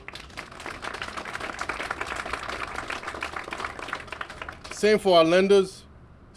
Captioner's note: applause